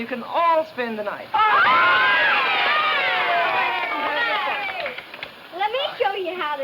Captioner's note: children cheering; children clapping